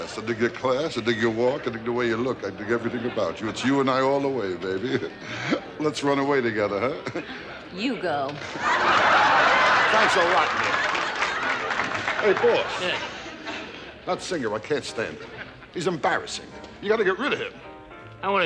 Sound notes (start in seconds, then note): 6.8 chuckles; 8.3 audience laughs